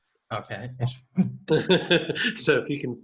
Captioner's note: laughs